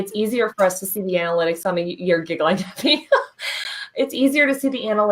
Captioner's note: chuckles